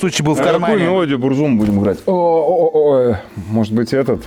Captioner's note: sarcasm